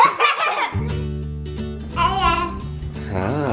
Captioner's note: giggles